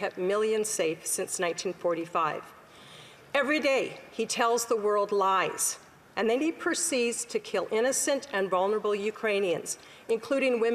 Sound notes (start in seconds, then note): none